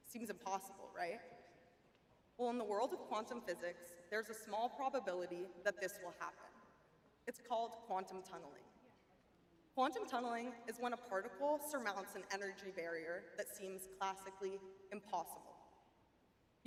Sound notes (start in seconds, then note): none